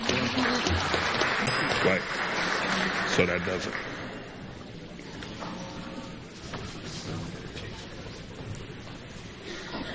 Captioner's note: bell rings